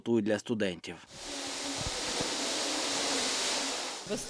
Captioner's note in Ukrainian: Звуки прибиральної техніки